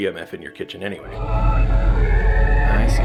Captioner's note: radio static